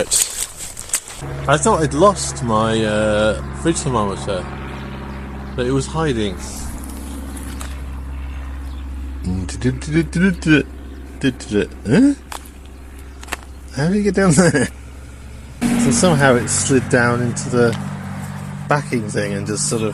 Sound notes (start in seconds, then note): 6.3 humming